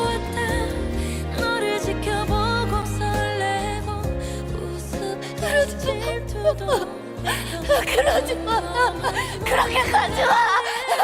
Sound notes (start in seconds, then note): 5.2 sobbing